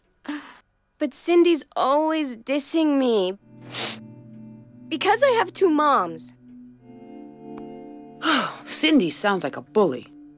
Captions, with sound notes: - But Cindy's always dissing me... (sniffing) because I have two moms. (sighing) - Cindy sounds like a bully.